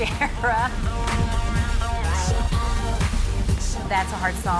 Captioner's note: chuckles